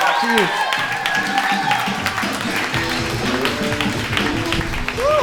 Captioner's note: crowd cheering